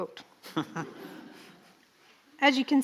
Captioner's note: chuckles